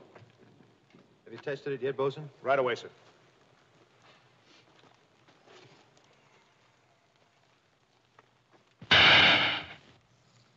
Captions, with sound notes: Have you tested it yet, boatswain? Right away, sir. [small explosion]